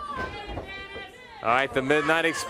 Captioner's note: crowd chatter